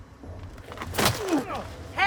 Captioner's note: groaning